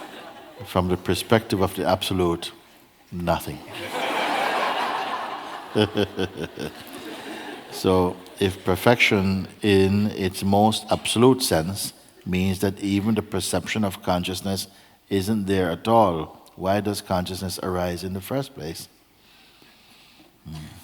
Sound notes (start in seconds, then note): 3.7 laughter